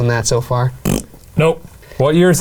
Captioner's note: blows raspberry